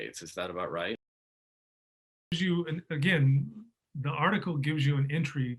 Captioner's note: audio distorts